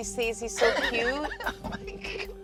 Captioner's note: laughs